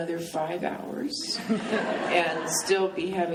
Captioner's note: laughing